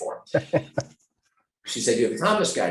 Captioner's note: laughing